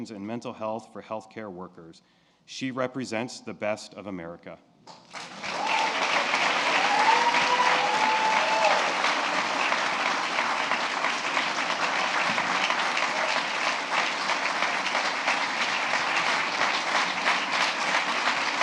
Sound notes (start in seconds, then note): 4.8 applause